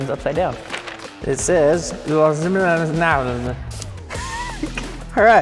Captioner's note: chuckles